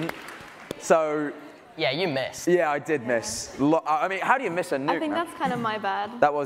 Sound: applause

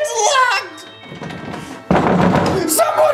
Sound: knocking

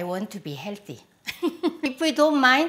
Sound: laughs

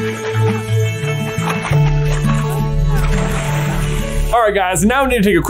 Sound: bright music; water splashing

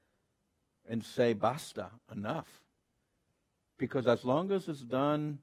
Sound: speaks Spanish

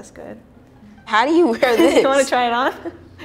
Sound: both laughing

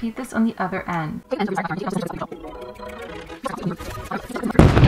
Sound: fast Forward Talking; explosion!!

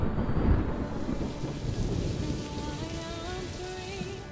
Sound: thunder cracking; rain pattering

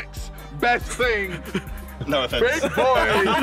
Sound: chuckles

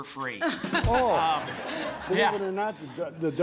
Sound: laughter

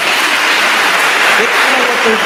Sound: attendees applauding

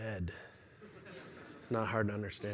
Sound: laughter

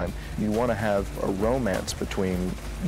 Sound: none

